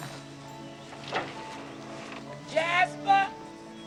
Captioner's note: door creaks